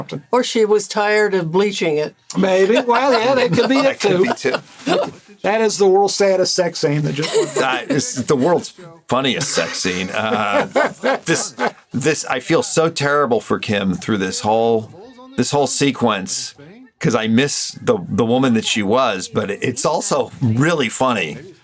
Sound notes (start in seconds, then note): 4.8 Burnett laughing; 9.3 Gilligan laughing